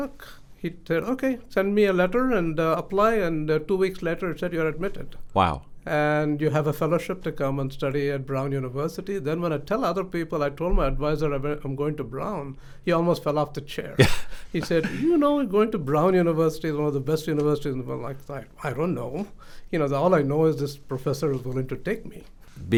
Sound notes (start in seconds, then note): 14.0 laughs